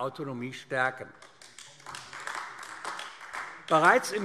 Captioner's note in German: Beifall AfD